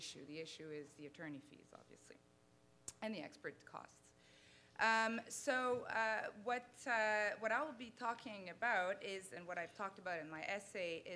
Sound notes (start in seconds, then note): none